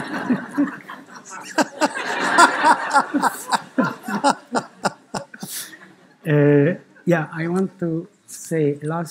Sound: laughter

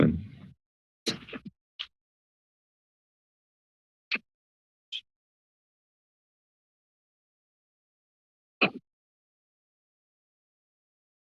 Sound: silence

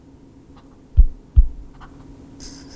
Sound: heartbeat

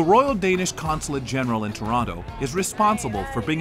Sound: voiceover

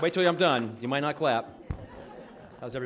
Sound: audience laughing

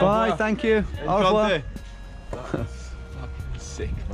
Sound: speaking in a foreign language

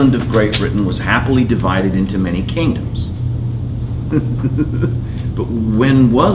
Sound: laughs

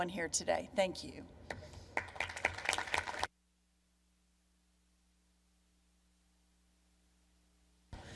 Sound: applause

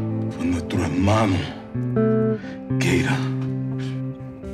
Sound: speaking spanish

